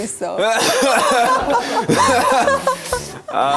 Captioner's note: cough...!